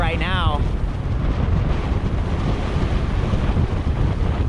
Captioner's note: wind blowing